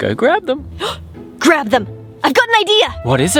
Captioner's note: gasps